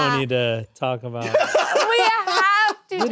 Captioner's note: laughs